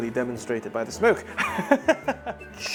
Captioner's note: chuckles